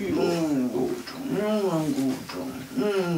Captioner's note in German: Liebevolle Laute